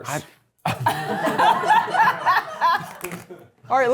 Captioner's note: cast and crew laughing